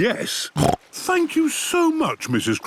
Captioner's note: snorts